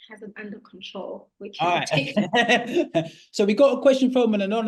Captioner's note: laughter